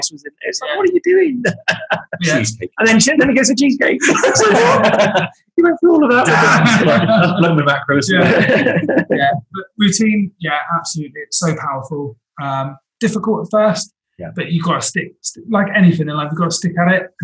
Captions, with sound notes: I said, what are you doing? - Cheesecake. - And then he says that and he gets a cheesecake. (laughs) He went through all of that. - I've blown my macros. - Yeah, but routine, yeah, absolutely. It's so powerful. Difficult at first, but you've gotta stick to it. Like anything, you've gotta stick at it